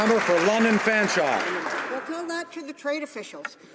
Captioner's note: some Applause